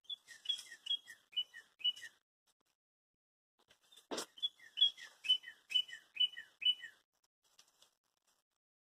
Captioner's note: bird chirping